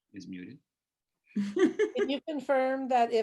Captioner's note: laughs